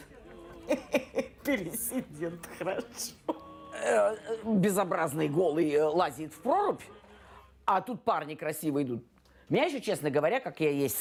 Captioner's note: speaking russian